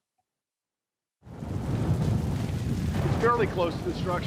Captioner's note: fire roaring